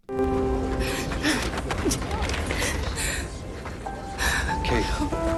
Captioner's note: gasping